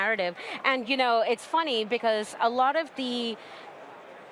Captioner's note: laughs